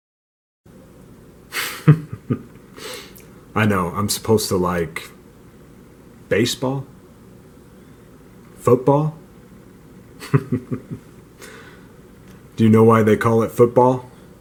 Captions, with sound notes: [Chuckles] I know. I'm supposed to like baseball, football. [Laughs] Do you know why they call it football?